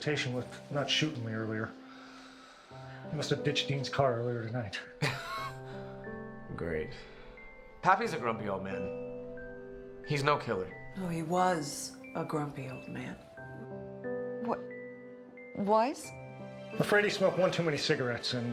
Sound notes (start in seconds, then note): 5.0 laughs